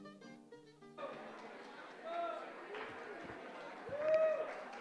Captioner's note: audience indistinctly chatting; audience cheering